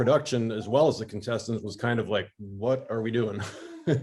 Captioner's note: laughs